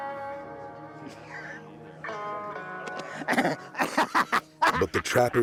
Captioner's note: laughs